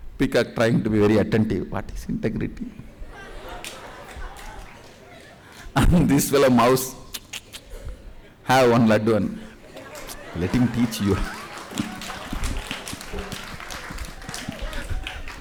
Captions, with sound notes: Peacock trying to be very attentive, “What’s Integrity?” And this fellow, mouse, “(munch, munch, munch) Have one ladoo and…..let him teach, you have…..”